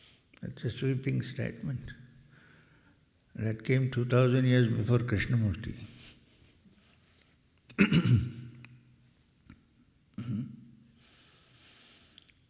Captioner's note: cough and clears throat